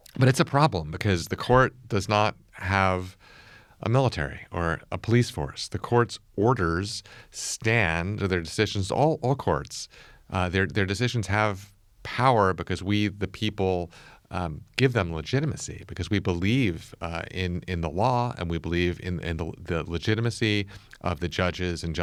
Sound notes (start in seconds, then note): none